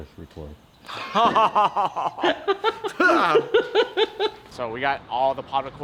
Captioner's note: laughing